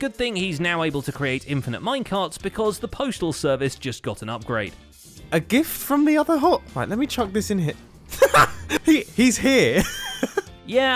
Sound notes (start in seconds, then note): 8.1 laughs